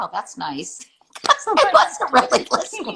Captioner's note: laughter